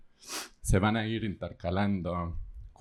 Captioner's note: speaking spanish